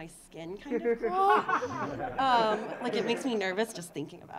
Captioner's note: audience laughing